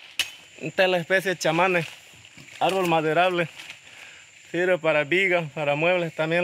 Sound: speaking in foreign language

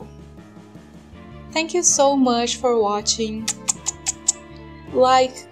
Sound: kiss noises

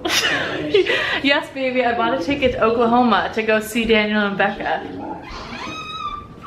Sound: laughing

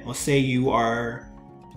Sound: none

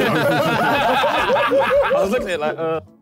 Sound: all laughing

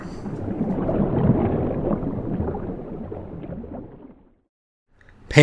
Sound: the sound of rushing water intensifies

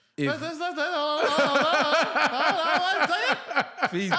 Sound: laughing

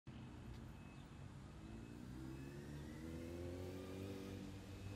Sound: engine whirling

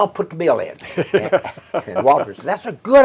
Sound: chuckles

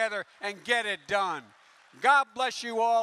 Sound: applause

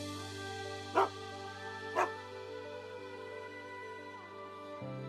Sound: Willamina barking; gentle upbeat music

